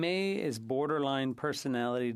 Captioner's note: speaking French